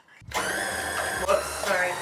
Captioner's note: mixer noise